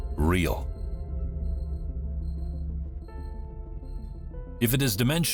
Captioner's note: mystical music; crickets chirping